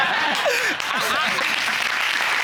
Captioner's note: crowd laughing